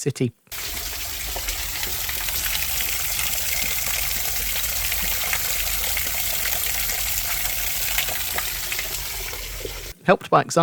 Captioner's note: sound of falling water over the grotto